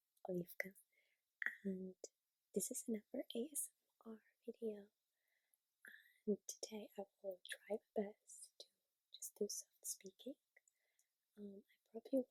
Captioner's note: soft-spoken ASMR